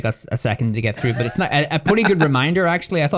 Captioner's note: laughs